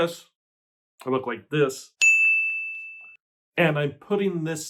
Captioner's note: single ting